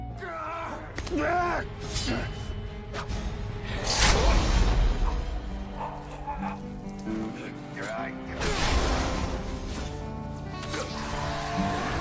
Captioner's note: death noises & Music